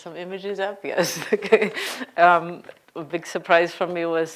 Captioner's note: laughing